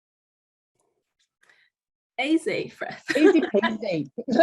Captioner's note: laughing